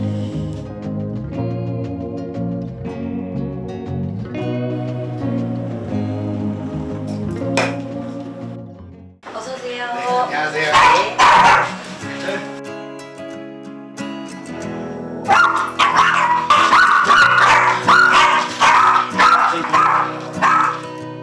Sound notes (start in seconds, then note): 15.2 woof